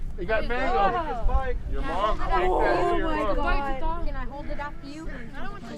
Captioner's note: various chatter